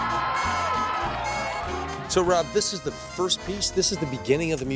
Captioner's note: people cheering